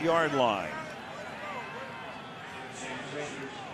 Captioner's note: onfield chatter